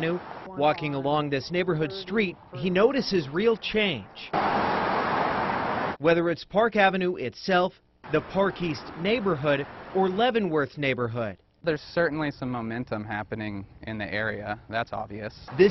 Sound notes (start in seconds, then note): 8.1 NATS: car passing